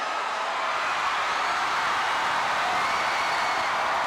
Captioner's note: audience cheering